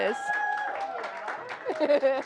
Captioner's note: applause